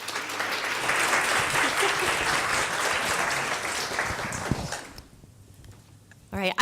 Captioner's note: applause